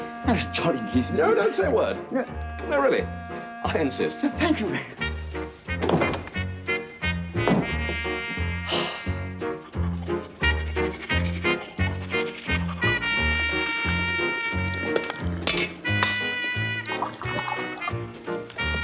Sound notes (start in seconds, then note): 8.6 sighs